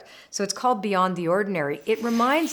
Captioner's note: frame whooshes